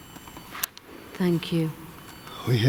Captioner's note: high-pitched beeping